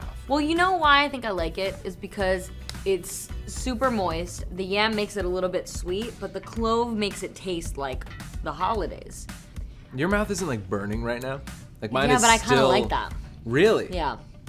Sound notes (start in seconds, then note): none